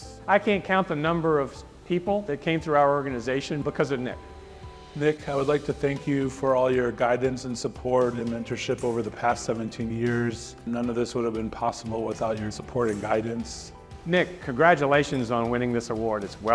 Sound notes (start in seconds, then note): none